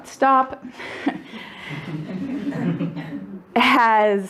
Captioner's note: audience laughing